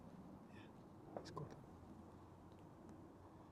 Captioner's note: whispering